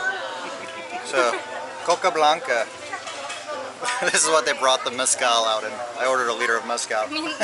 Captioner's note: laughter